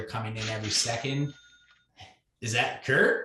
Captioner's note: cash register rings